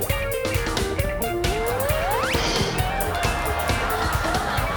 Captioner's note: laughter